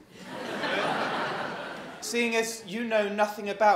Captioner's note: laughter